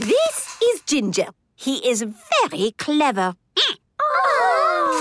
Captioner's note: squeaking